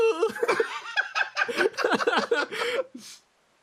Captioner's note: laugh